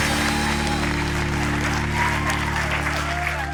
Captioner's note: applause continues